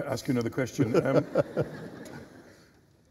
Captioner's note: laughter